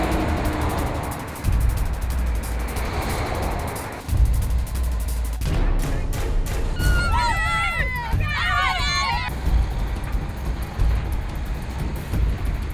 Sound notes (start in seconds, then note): 6.7 children shouting